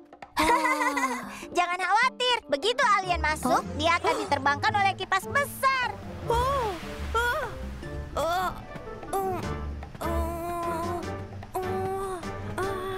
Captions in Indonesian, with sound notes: [Pinkfong tertawa] Jangan khawatir. Begitu alien masuk, dia akan diterbangkan oleh kipas besar. [suara berjuang melawan angin]